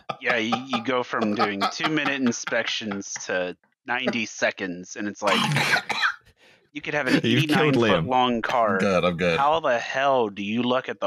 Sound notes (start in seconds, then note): 5.3 choking in background